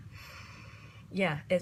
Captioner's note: inhales